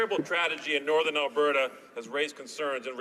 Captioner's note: some Applause